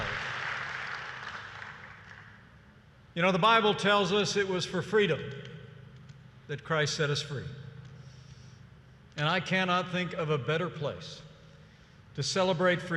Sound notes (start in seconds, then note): 0.0 applause